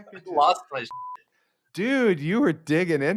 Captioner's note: beeps